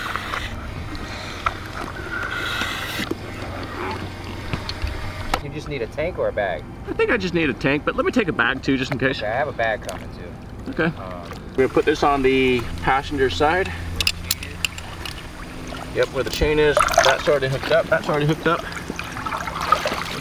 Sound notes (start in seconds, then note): 5.6 male Voice; 9.3 male Voice; 14.3 male Voice